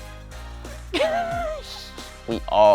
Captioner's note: laughing